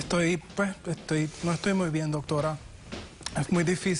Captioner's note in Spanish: exhala